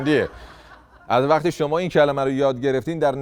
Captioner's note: laughter